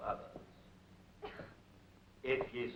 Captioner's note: girl coughs